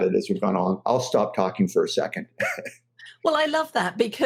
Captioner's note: chuckles